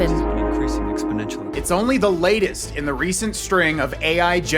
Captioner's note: phone audio